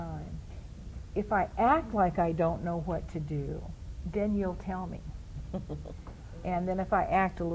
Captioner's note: laughs